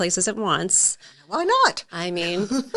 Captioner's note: laughing